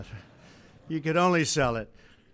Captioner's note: laughter